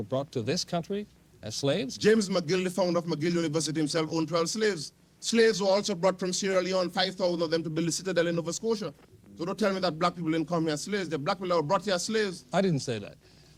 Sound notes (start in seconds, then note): none